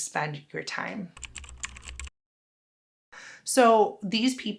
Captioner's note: keyboard clicking